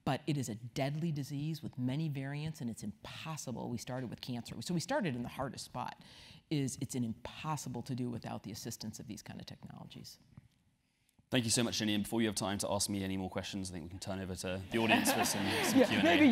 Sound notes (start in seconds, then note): 14.8 laugh